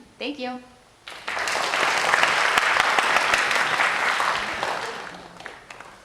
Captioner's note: applause